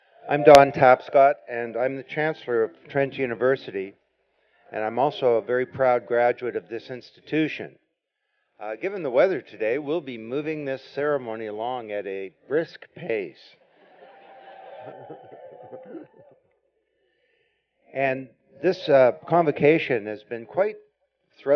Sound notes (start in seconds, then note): 13.6 laughter; 13.8 cheering